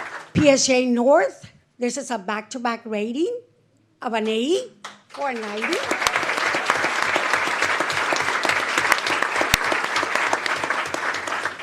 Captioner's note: applause